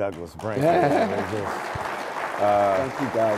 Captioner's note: applause